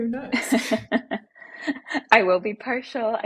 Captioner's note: laughing